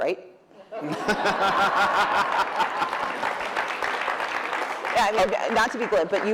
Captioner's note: laughter